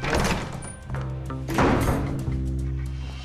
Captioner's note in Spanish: ruido de la puerta